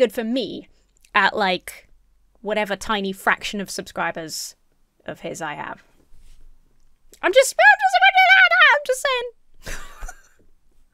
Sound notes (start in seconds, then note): 7.7 speaks gibberish; 9.6 giggles